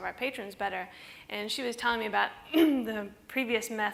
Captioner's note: clears throat